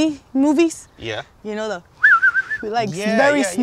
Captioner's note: whistles